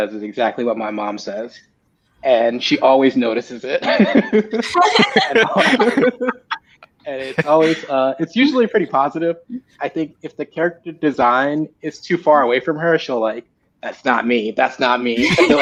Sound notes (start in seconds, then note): 4.6 laughing